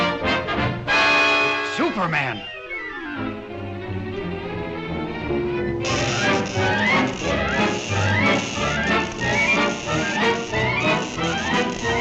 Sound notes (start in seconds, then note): 1.2 dramatic music; 3.1 tense music; 5.8 electricity crackling; 6.3 dramatic music